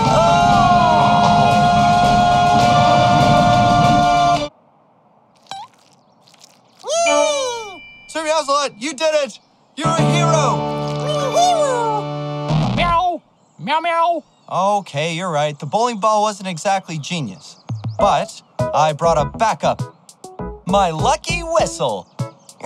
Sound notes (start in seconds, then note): 12.4 meows